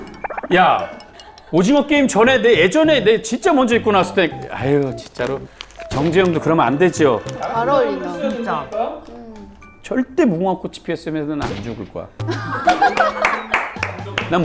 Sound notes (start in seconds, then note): 2.2 whine